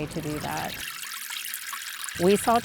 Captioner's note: water spraying